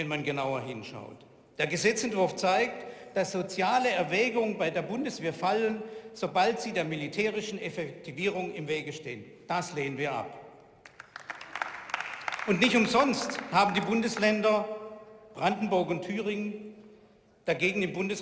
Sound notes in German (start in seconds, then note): 10.8 Beifall